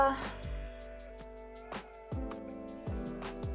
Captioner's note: exhales